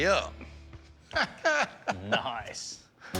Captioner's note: laughs